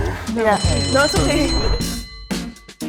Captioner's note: alarm ringing